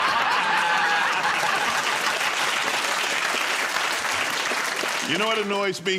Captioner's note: laughter